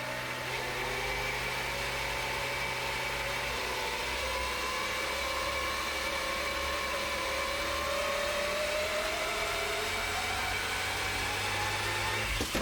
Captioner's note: whirring